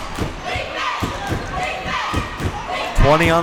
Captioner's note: crowd chanting defense